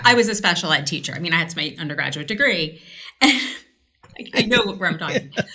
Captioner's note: laughs